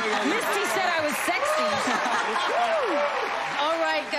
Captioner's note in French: laughter